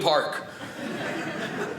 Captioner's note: audience laughing